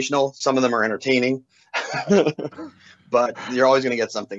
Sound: laughter

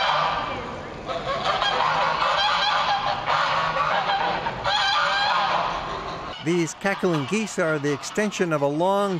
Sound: geese quack

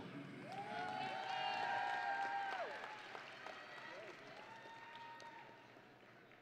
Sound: audience and graduates cheering

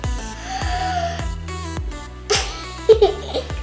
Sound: laughs; gasps; laughs

